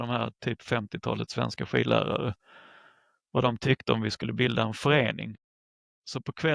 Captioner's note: Swedish